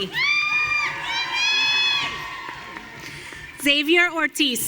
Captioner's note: audience cheering